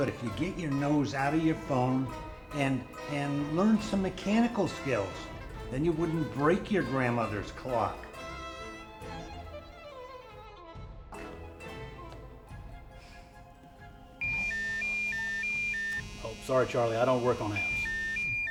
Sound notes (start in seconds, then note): 8.8 playful music; 14.1 phone ringing